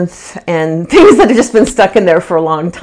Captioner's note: chuckles